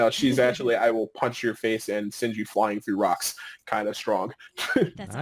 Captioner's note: laughing